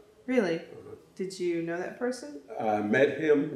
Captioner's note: laughs